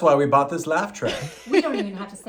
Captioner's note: woman laughing